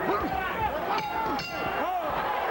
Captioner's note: bell rings